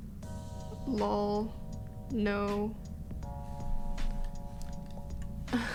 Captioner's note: she laughs